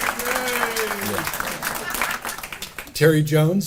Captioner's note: audience applauding; cheering and laughing